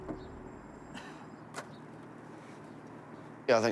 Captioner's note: coughs